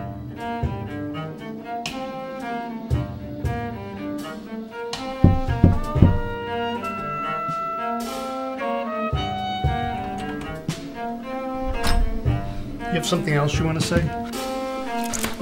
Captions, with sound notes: [knock] [door opens] You have something else you want to say?